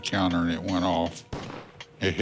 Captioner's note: gunshot